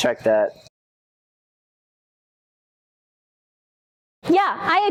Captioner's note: silence as we observe the beautiful trusses